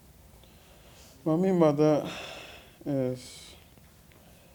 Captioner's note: exhales